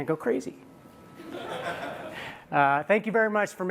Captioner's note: laughter